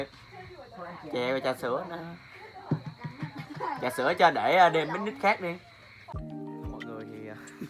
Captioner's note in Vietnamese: Tiếng cười